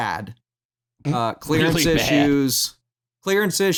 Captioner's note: snorts